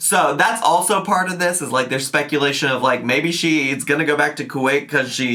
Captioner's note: none